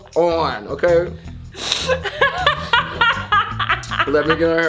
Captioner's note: laughing